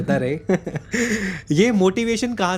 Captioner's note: laughs